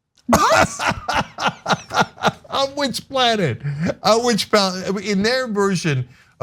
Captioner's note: laugh